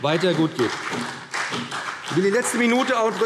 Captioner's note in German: Beifall BÜNDNIS 90/DIE GRÜNEN und CDU